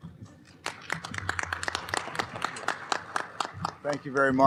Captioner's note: applause